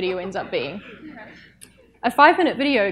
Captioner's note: audience chuckles